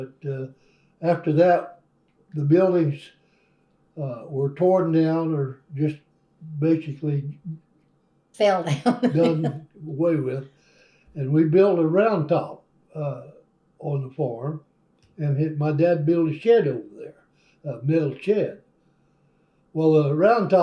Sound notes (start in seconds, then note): 8.7 laughs